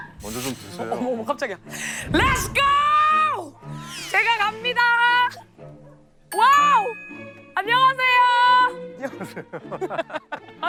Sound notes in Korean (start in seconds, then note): 1.7 들숨